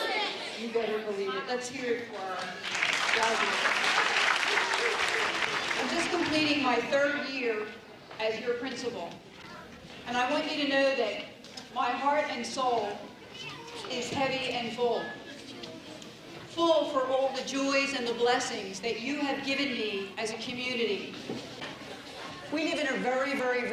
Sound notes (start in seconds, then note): 5.0 applause